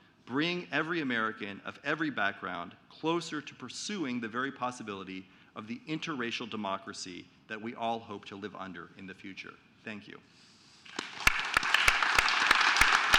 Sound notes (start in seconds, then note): 10.8 applause